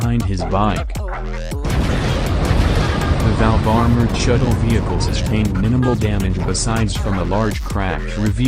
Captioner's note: boom!